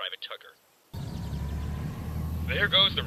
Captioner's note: tank driving away